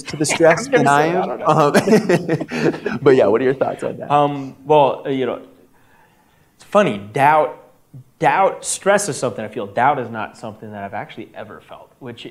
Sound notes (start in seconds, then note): 0.0 laughs